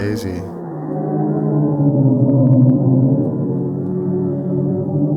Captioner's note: black hole groaning